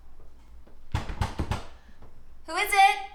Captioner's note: door knocking